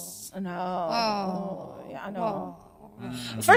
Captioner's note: groans